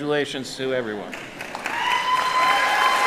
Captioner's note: applauding; cheering